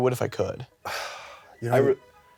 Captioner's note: stutters; scoffs